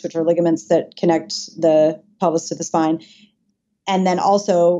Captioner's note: none